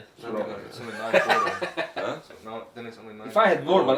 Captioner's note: laughing